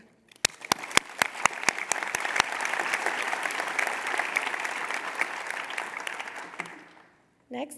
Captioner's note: applause